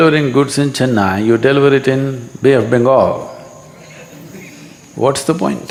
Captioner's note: few laugh